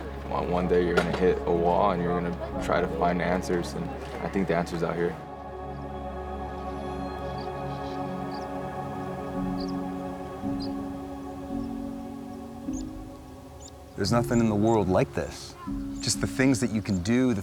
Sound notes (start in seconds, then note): 5.2 birds chirping